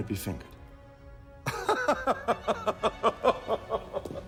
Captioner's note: laughing